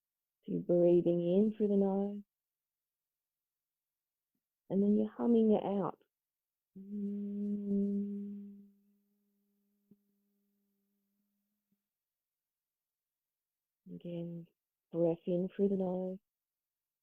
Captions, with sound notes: Breathing in through the nose ... and then you're humming out. (Humming sound: Hmmmm followed by silence) Again, breath in through the nose.